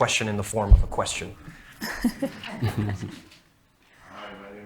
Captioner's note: people laughing